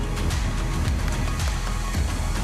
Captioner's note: applauding